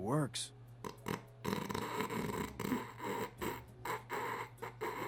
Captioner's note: stifled laughter